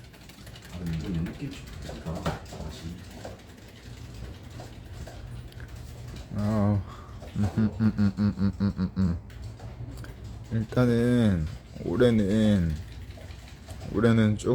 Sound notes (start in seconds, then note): 6.1 laughs